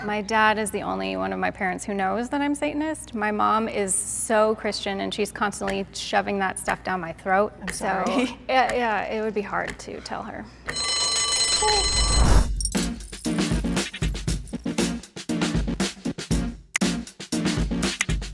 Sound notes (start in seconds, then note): 10.8 bell ringing; 12.5 upbeat music